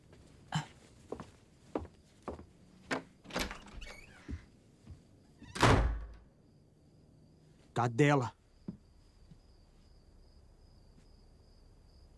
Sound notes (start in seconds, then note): 5.4 door slams